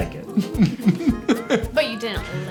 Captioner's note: laughing